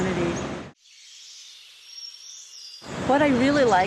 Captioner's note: birds chirping